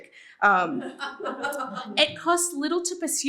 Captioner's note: laughter